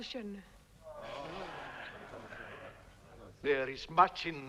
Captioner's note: chieftains moaning